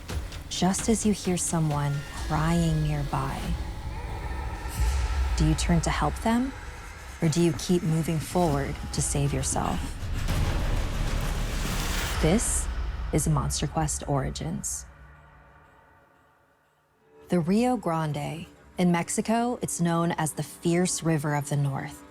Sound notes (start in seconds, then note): 4.0 tense music continues; 10.1 thunder crashing